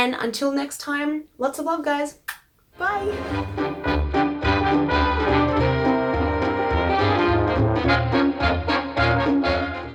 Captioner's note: kiss